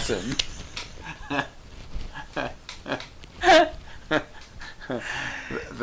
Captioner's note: laughing